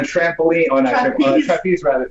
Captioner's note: laughs